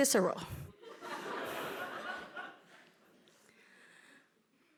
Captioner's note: audience laughing